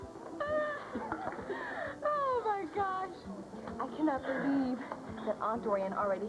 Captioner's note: normal voice